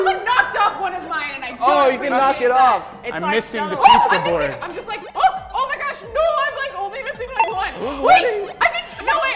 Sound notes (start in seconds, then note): 7.4 beep; 9.1 beep